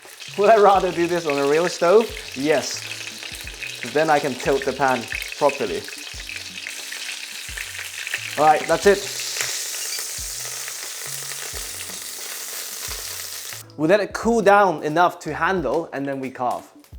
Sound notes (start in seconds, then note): 6.7 sizzling sound